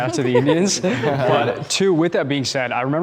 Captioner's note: everyone laughing